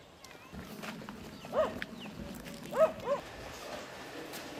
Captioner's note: dog barking